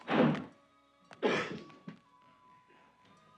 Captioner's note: coughs